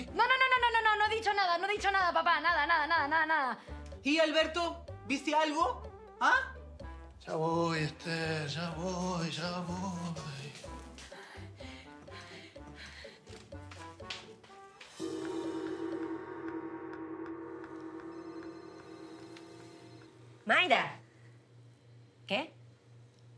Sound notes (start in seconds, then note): 16.9 phone rings